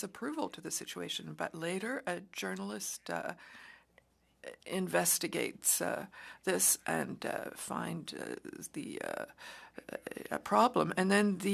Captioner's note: speaking French